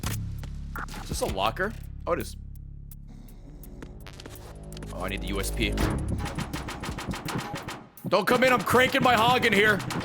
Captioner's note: knocks